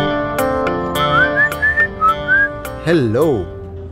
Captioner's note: Aniket whistling